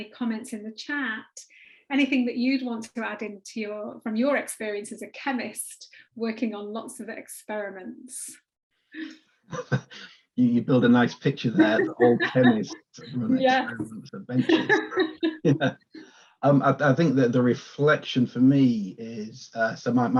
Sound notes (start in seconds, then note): 9.5 chuckles; 10.4 laughs